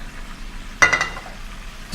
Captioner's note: utensils clink